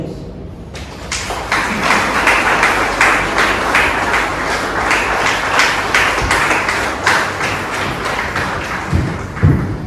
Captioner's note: clapping